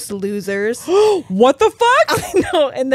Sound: gasps

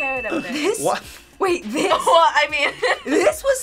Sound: laughs

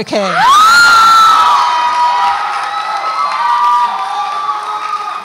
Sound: audience applauds and cheers

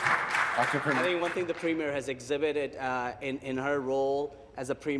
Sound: applause

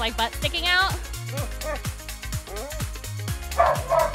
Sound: dog whining; dog barking

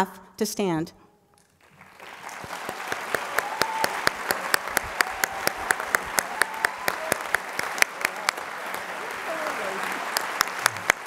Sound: applause

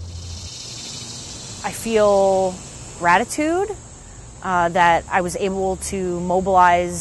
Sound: insects buzzing, birds chirping

